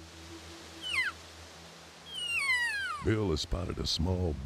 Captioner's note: high-pitched bugling elk call